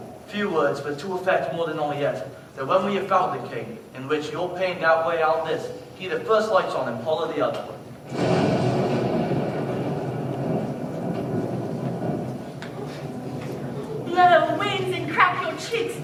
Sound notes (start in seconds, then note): 8.0 rain and thunder